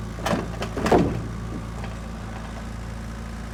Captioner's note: wood clanking